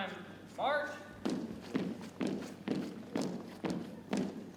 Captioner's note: boots thumping